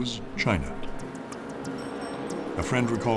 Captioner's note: bicycle bell rings